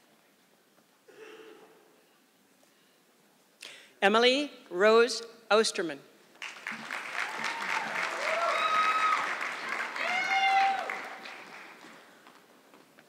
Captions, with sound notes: Emily Rose Ousterman. (audience clapping)